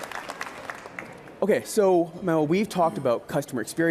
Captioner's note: applause